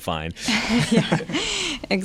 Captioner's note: laughter